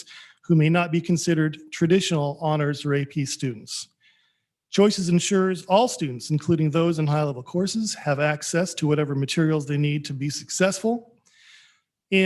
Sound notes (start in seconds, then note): none